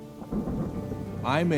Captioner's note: thunder rumbling